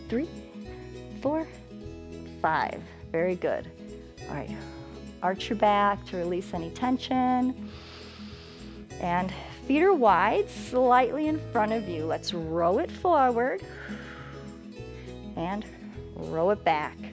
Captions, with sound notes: three, four, five, very good, all right. Arch your back to release any tension [inhales] and feet are wide, slightly in front of you. Let's roll it forward [exhales] and roll it back.